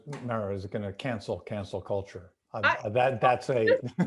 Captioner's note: laughing